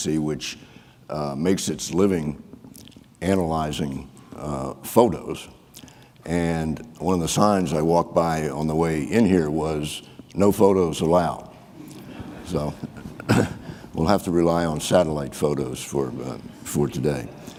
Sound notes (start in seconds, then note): 11.8 audience laughing